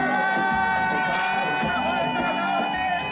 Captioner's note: photo snaps